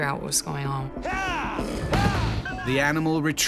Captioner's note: shouting; voiceover